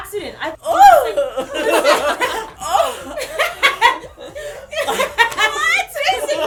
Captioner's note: laughter